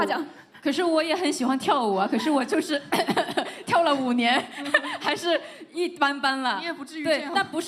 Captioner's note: cough cough